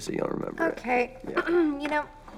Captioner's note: clears throat